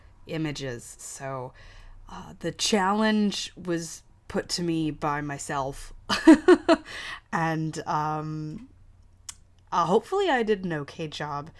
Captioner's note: laughs